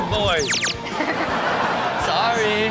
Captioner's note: everyone laughs